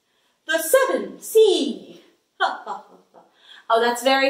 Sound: laughs

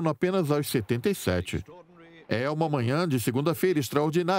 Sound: voiceover

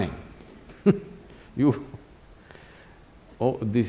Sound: laughs

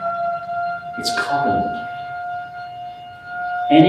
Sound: siren

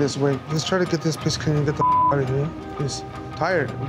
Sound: beep

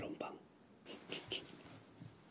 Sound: laughing

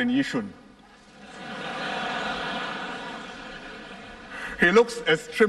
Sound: laughter

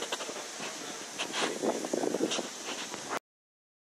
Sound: wind blows

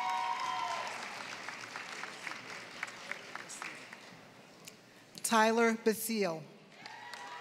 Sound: applause; applause

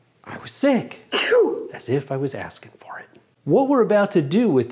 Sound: sneeze

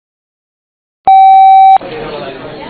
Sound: loud beep; audience murmuring

